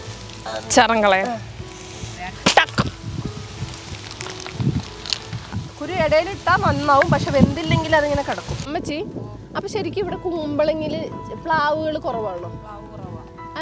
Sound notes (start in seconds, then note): 3.3 wind blowing